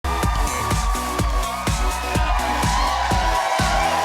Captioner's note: audience cheering